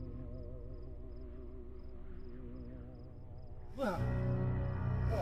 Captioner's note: wind blowing